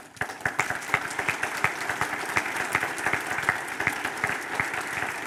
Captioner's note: audience applauding